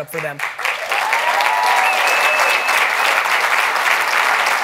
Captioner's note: audience applauding